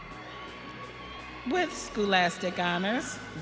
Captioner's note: audience cheering